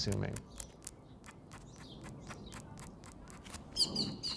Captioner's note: pen scratches